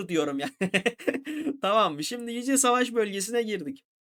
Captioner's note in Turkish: kahkaha